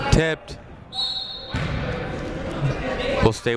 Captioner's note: whistle blows